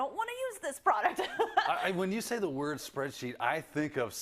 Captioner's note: laugh